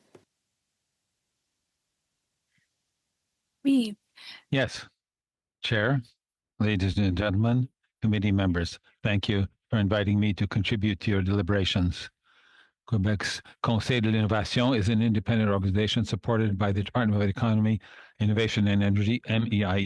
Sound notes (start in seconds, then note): 10.3 speaking in French